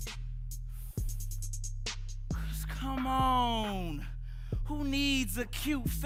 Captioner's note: inhaling